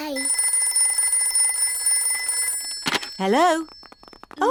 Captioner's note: phone rings